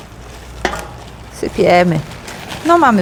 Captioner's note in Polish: szeleszczenie